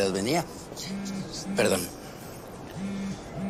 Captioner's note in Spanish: Vibra el celular